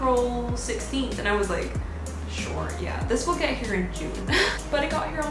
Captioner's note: exasperated laugh